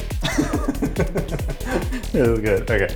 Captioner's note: energetic music; giggles mischievously; giggles